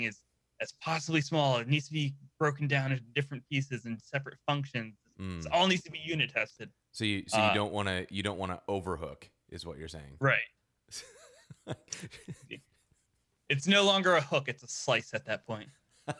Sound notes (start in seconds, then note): 10.9 both laughing